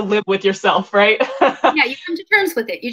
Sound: laughs

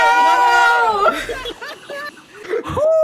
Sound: laughs

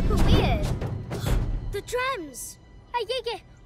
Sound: drumming; gasps

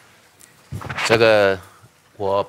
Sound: speaking chinese

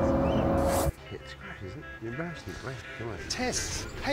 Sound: people continue chatting

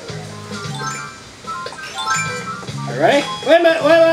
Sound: chime as balloon appears; chime as slingshot appears

